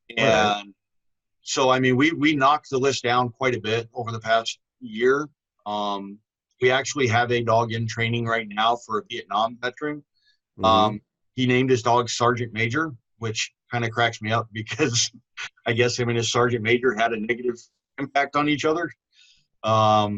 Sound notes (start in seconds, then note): 14.6 laughs